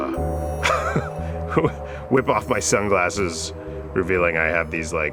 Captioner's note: laughs